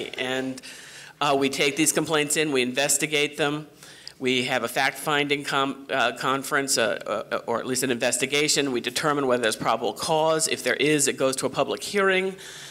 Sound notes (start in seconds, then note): none